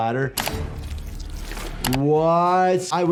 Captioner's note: flesh squelches